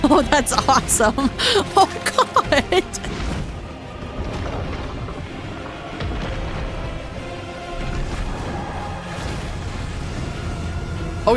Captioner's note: gasps